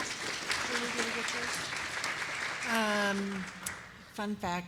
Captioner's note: applause